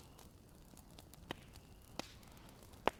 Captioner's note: fire cracks